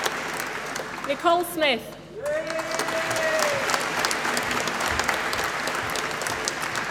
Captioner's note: applause